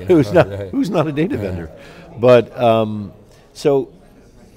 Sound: laughs

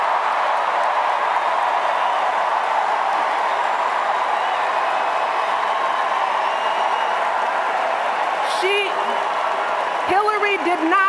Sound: cheers, applause

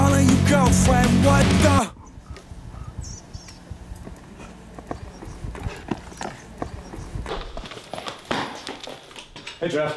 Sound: running

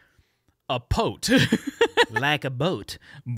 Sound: laughing

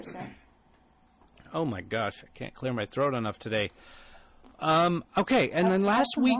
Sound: DJ clears throat

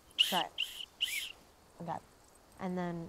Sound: blowing whistle

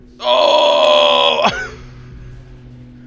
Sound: breaks out into laughter

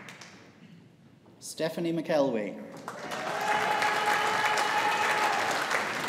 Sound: audience applauding

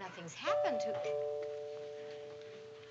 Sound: doorbell

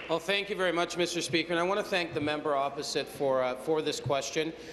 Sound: some Applause

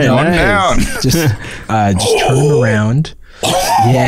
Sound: gasps

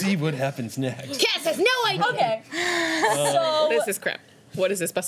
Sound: laughter

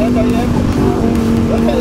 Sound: engine rumbling continues

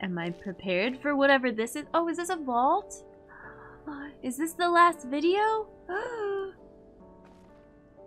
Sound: gasp

